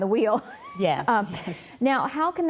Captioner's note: laughs